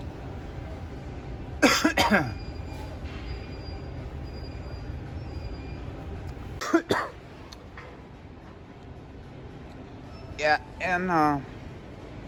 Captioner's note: coughs twice